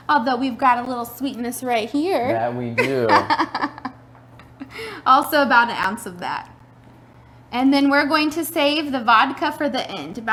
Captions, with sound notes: Although we've got a little sweetness right here. - Yeah, we do. (laughs) - Also about an ounce of that. And then we're going to save the vodka for the end